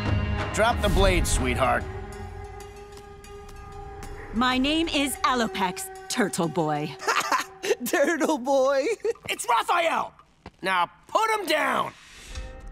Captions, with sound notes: Drop the blade, sweetheart. My name is Alopex, turtle boy. [chuckles] Turtle boy? It's Raphael. Now put him down.